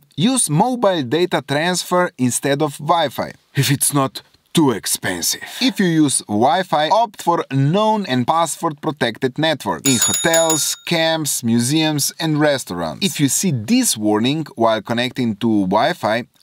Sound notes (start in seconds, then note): 9.8 bell ring